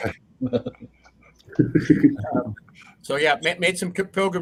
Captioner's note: laugh